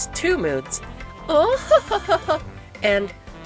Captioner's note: noblewoman laugh